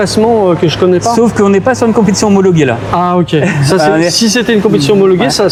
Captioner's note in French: rires